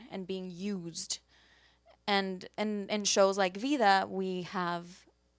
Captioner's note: none